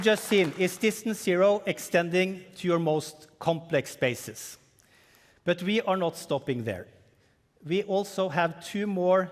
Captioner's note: cheering and applause